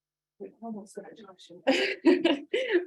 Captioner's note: faintly speaking; laughs